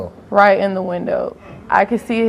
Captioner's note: none